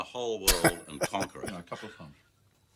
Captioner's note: laughing